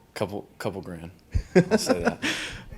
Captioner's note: interviewer laughs